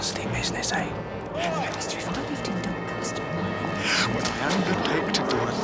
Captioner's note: bisikan panik